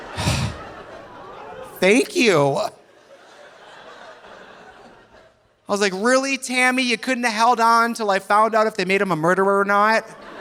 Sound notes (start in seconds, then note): 0.0 audience laughing; 0.0 sighs; 2.8 audience laughing softly